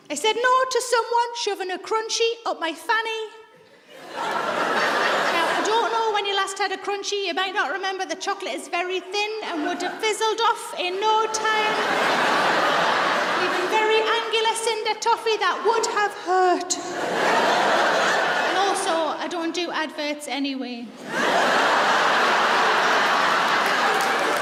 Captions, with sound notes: I said no to someone shoving a Crunchie up my fanny. (audience laughs) Now I don't know when you last had a Crunchie. You might not remember, the chocolate is very thin and would've fizzled off in no time. (audience laughs) And a very angular cinder toffee, that would have hurt. And also, I don't do adverts anyway. (audience laughs)